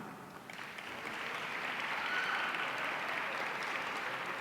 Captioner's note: audience applauding